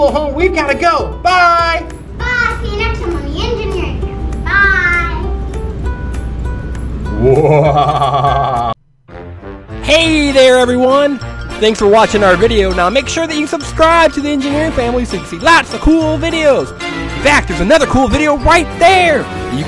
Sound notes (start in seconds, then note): 6.3 upbeat music; 7.2 laughing maniacally; 10.2 voiceover